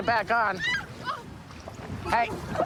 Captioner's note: screaming